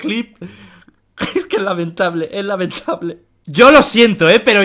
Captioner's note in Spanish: risas